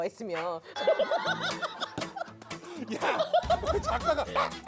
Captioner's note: cracking up